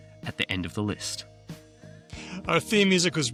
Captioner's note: none